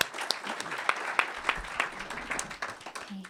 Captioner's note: applause